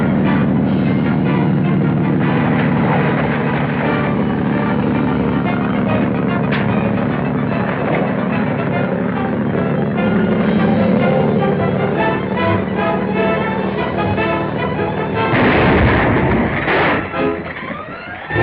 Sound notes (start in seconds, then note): 1.9 splashing; 6.1 thumps; 15.3 explosion